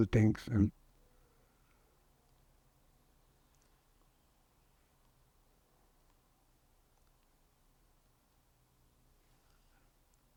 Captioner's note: pauses 10 seconds